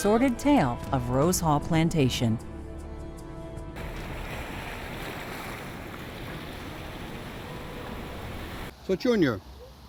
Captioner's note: water</b> <b>running